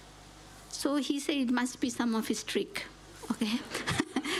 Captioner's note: laughs